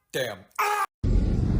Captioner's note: scream